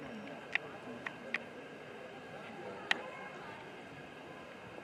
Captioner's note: tourists chattering